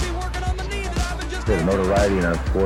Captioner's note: crowd cheering